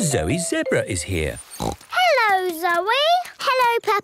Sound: snorts

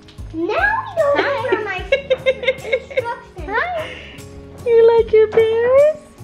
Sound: laughing

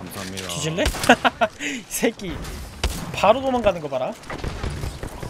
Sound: laughs

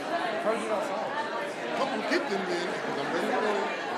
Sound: audience murmuring

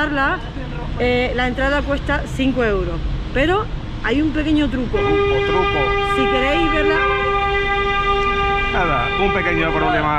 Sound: two cars whistling

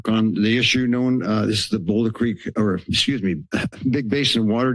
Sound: clears throat

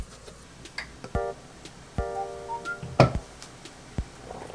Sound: boiling

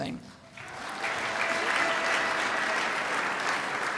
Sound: crowd applauds

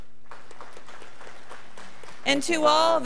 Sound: crowd applauding

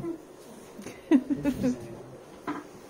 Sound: giggle; laughter

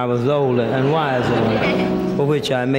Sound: audience laughter

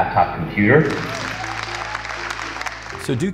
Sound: applause

